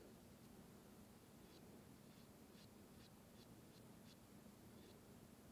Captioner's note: glue wand brushing